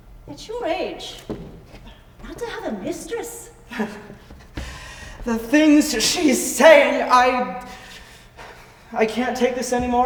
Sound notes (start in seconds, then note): 3.9 scoffs; 7.7 takes a deep breath